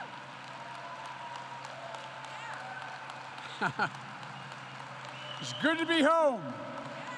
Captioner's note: laughs